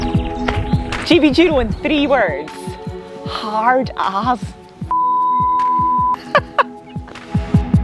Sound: beep

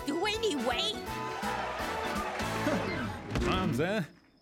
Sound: cheering

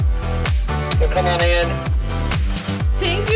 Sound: man on radio

